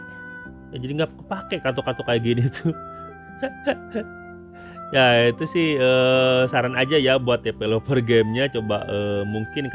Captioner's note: laughs